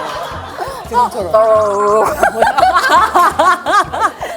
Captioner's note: automatic gargling